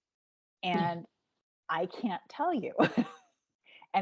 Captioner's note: giggling